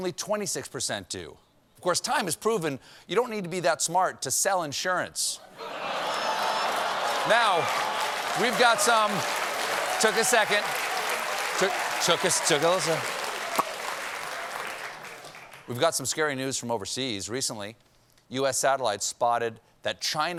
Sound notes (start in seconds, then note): 5.1 applause; 5.6 laughter